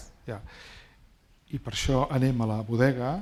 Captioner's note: speaking spanish